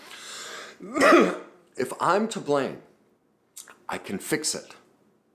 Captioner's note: coughs